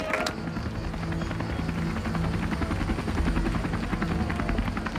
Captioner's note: helicopter rumbles